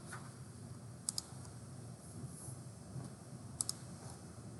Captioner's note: mouse clicking